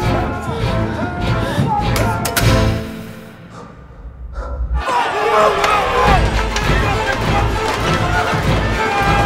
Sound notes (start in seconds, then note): 1.7 door clicks